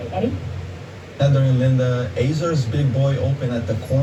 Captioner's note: on TV